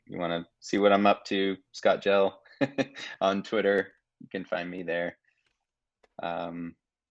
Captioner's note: chuckling